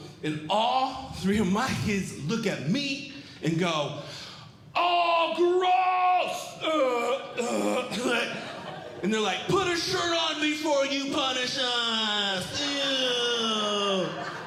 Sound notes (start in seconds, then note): 4.7 yelling; 6.7 gags; 8.1 audience Laughing